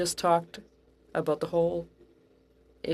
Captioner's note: speaking French